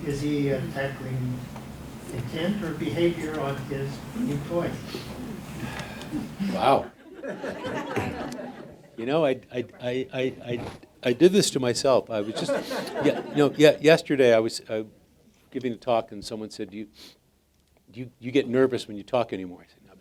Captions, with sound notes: Is he tackling intent or behavior on his new toys? - Wow. (audience laughing) I did this to myself. Yesterday, I was giving a talk and someone said, do you get nervous when you talk anymore?